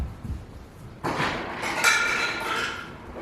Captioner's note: toys clattering